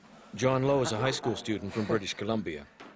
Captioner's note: voiceover